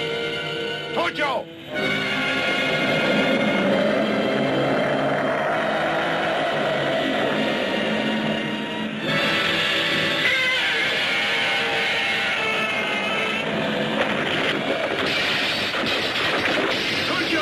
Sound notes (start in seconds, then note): 2.0 dramatic music; 2.4 Gammera roars; 10.5 Gammera roars; 14.5 lighthouse clatters